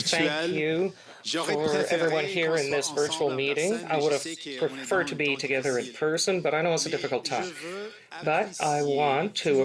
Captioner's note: speaking French